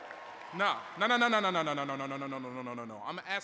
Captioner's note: cheers